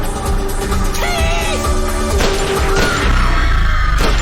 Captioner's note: gunfire; crowd screaming